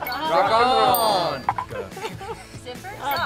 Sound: bell dings

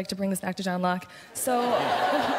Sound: laughter

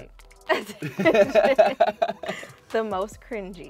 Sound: couple laughs

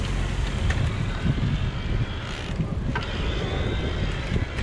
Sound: peddles turning

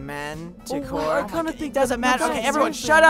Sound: they bicker

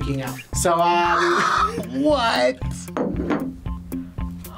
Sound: laughs

